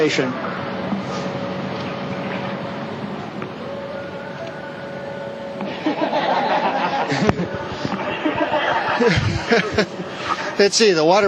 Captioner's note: laughter